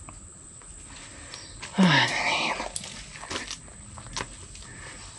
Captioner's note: sigh